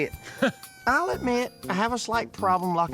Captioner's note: laughs